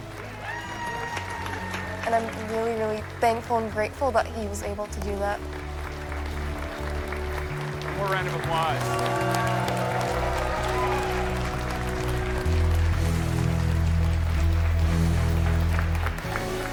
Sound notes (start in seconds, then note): 0.0 cheering and applause; 9.1 crowd cheering, applauding